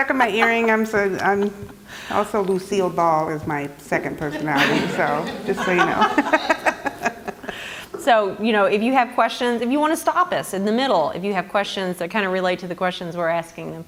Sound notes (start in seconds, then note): 4.4 audience laughter; 7.2 laugh